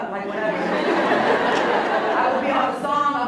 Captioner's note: laughs